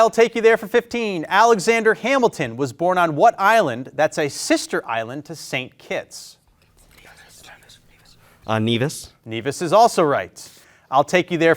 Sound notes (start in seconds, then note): 7.2 group whispering